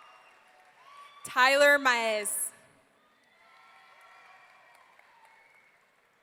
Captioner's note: audience cheering